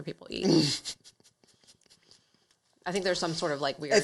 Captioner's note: laughs